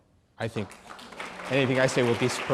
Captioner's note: applause